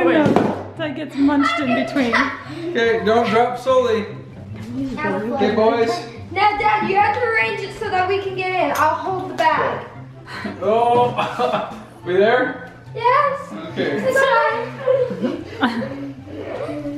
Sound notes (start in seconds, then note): 11.0 laughs